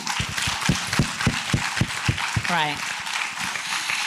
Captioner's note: applause